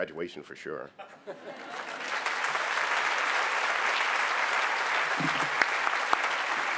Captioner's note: applause